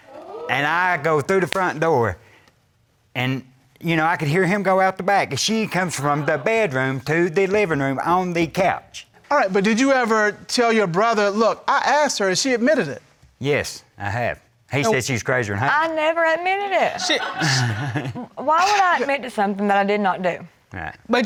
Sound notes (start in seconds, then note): 17.0 crowd laughs